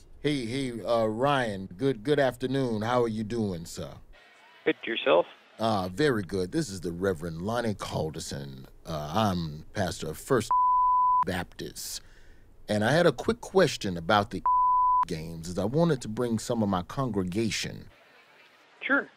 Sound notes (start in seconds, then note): 10.5 beeping; 14.4 beeping